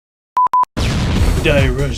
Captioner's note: explosion